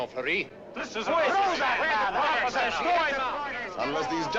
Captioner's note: loud complaints from the audience